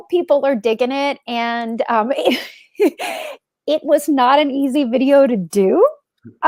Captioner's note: laughs